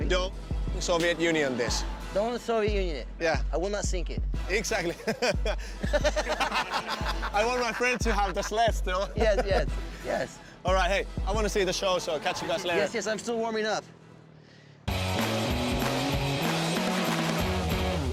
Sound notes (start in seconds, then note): 4.8 laughs; 14.9 rock musical flourish